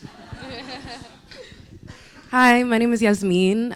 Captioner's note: students laughing